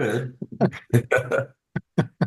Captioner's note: laughing